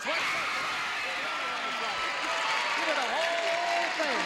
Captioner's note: applause